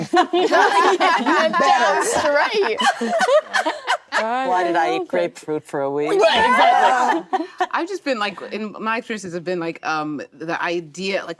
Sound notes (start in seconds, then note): 0.0 actresses laughing; 6.1 actresses laughing